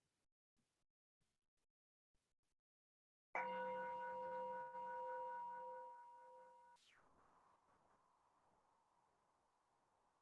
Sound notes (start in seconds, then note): 3.4 chime